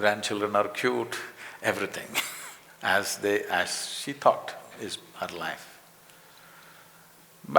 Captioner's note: laughs